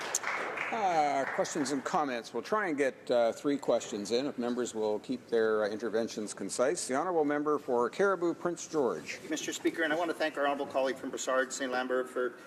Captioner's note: applause